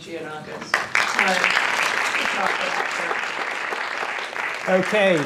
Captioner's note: applause